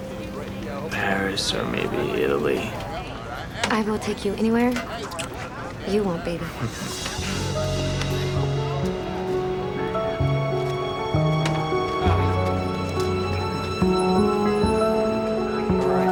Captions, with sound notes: Paris or maybe Italy. I will take you anywhere you want, baby. (CHUCKLES)